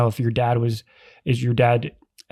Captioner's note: none